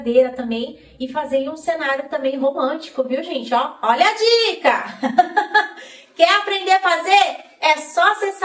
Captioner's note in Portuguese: risadas